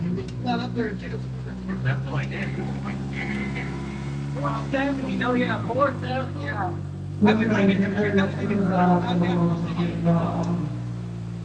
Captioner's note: crowd chattering